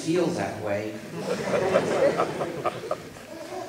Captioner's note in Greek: γέλια στο ακροατήριο